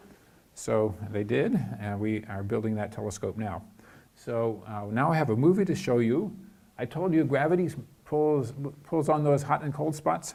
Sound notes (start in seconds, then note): none